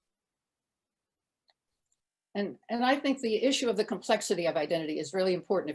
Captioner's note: none